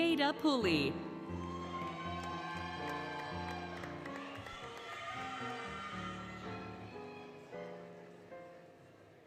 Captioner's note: applause, Cheering, Music